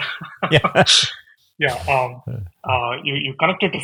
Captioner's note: both laughing